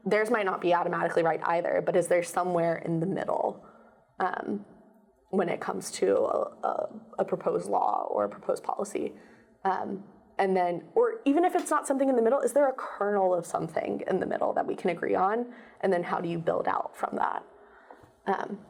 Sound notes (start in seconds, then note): none